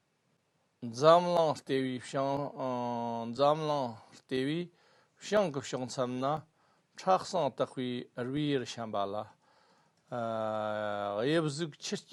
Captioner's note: tibetan